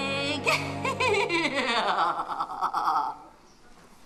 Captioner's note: Margaret laughs